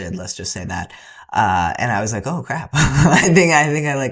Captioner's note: laughter